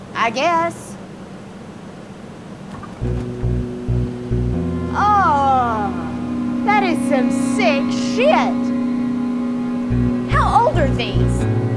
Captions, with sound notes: - I guess. (eerie music) (moaning) That is some sick shit. How old are these?